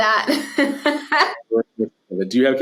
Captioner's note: laughing